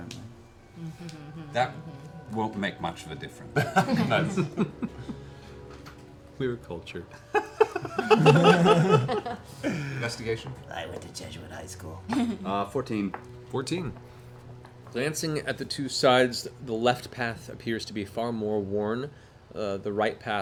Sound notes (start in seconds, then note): 7.1 laughter